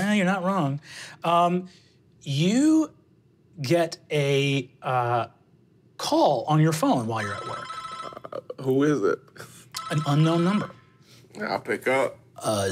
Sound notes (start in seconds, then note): 7.1 phone ringing